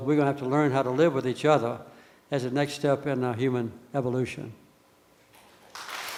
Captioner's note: applause from the audience